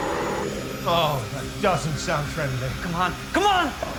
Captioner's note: growling